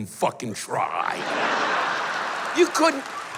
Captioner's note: laughter